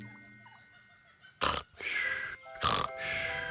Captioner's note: snoring and whistling